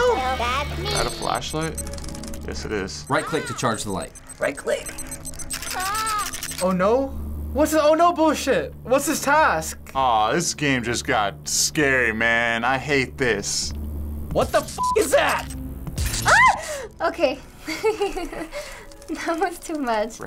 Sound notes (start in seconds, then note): 5.0 beeping, Tattletail exclaims; 17.6 chuckles